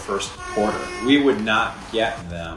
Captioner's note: foghorn blares